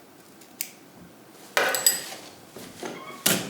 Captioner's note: clinking